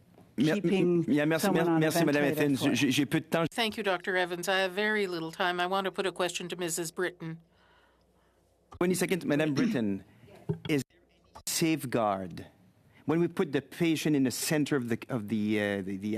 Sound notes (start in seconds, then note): 8.8 speaking French